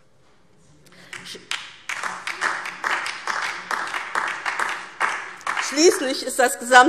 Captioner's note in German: Beifall DIE LINKE